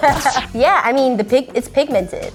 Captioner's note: laser blasting